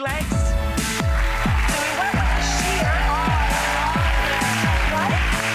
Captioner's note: audience applauds